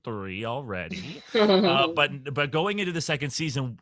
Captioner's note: laughs